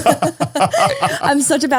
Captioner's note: all laughing